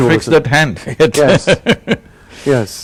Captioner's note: laughs